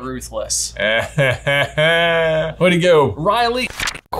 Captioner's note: laughs